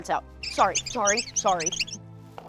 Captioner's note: squeaking